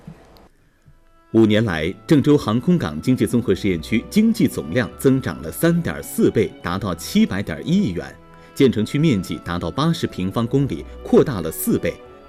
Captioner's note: Chinese audio with music